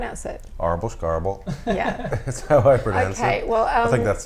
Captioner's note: laughs